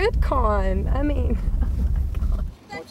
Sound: laughs

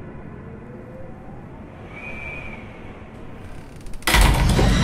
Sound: wind howling; wood creaking

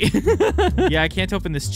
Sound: laughter

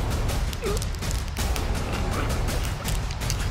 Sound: choking

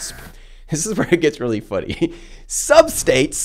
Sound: chuckles

